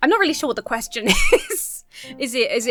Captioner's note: laughs